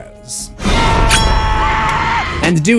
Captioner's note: screams